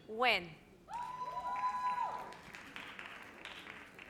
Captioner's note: audience cheers